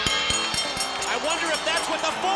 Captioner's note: bell ringing